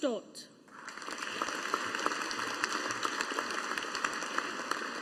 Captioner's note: audience applauding